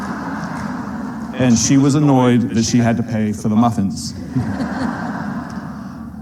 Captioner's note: laughter